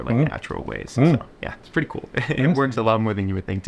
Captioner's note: chuckles